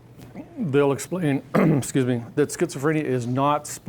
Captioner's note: clearing throat